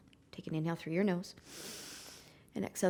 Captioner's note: inhaling